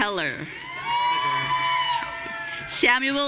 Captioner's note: audience cheering